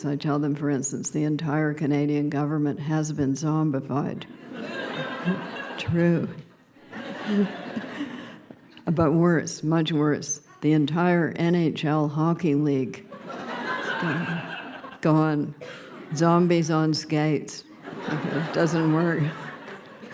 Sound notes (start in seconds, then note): 4.3 laughter; 13.1 laughter